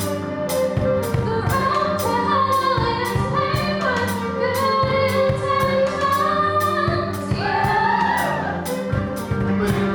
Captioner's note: audience cheers